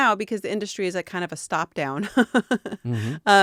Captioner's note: laughing